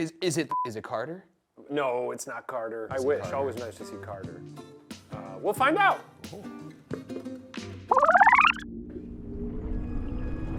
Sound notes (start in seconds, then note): 0.5 beep; 6.8 knocks on his helmet; 7.9 film rewinds